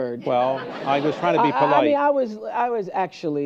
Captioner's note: laughter